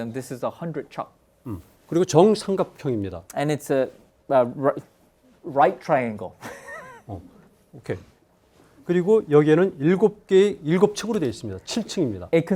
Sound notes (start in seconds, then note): 2.2 speaking in Korean; 6.4 laughs; 9.0 speaking in Korean